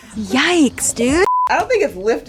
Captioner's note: laughing; high pitched beep